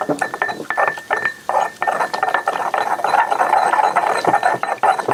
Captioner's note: mortal and pestle grinding